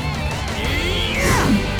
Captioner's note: grunting